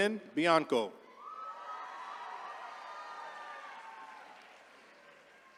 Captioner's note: attendees cheering